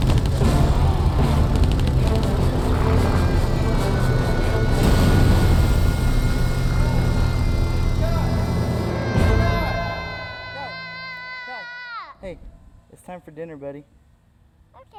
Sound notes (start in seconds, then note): 5.1 explosion; 7.5 shouting